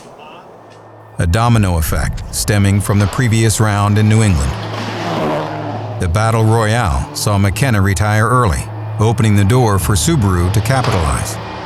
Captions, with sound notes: (suspenseful music) A domino effect, stemming from the previous round in New England. (engine revving) The battle royale saw McKenna retire early, opening the door for Subaru to capitalize.